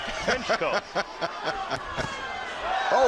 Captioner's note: laughs